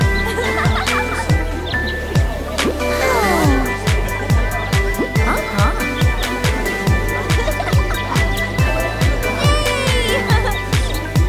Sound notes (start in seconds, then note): 0.1 giggling; 2.8 sighing